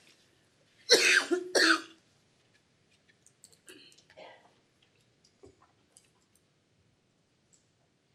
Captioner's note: coughing